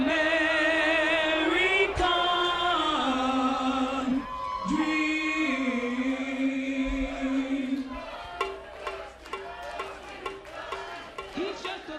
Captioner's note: crowd cheering